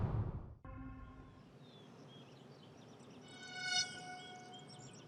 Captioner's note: birds chirping